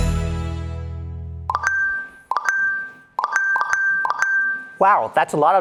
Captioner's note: notification chimes